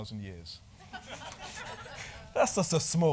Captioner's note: laughing